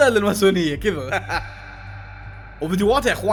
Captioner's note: laughs